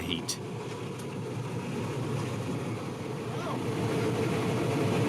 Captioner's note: train engine revving